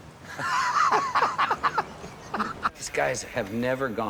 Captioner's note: all laughing